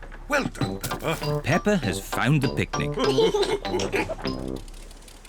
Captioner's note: all laugh